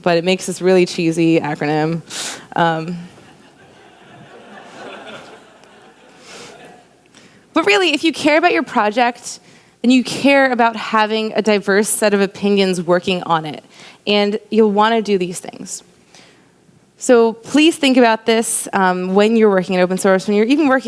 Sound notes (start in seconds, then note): 3.2 laughter